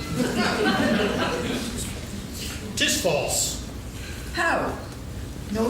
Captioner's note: laughing